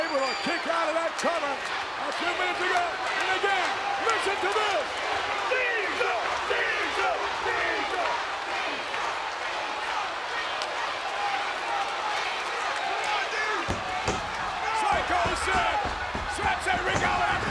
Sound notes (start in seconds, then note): 8.9 audience chanting